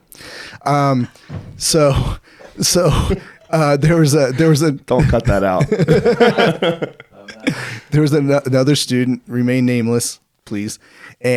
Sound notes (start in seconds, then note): 3.4 laughing; 6.5 laughing